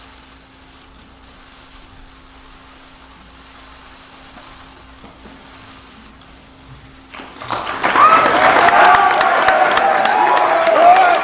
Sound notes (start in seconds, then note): 7.3 audience cheers